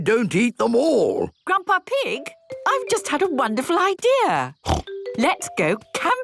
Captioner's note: snort